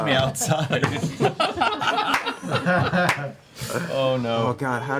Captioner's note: laughter